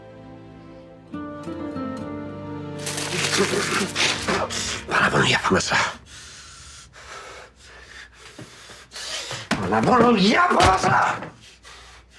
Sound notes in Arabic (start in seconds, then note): 2.8 آهات; 6.0 يلهث